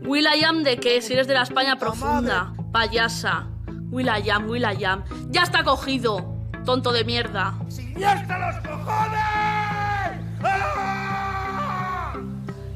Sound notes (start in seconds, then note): 3.7 mocking; 7.9 yelling